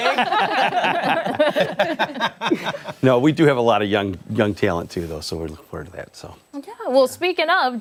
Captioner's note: laughter